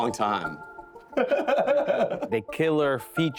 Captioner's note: laughing